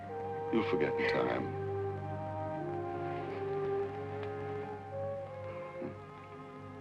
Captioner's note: Sheila crying softly